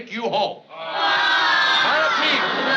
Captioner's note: collective "oh"